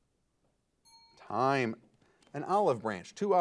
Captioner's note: timer beeping